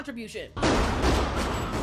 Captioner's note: gunshots